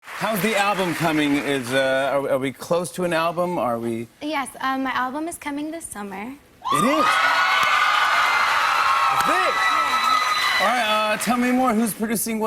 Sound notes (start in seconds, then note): 6.7 cheers and applause